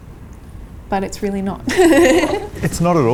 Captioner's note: laughs